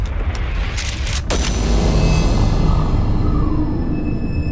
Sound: gunshot

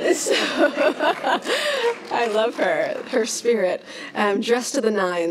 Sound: laughs; applauds; laughs

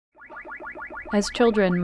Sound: repetitive video game sounds

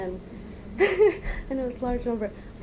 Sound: laughs

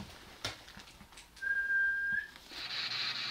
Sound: whistle

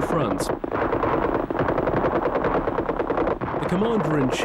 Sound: guns firing

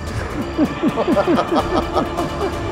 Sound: laughs

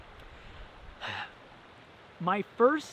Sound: sighs

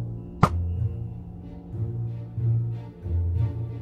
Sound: arrow being shot and Music

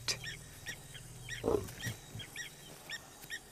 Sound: grunts

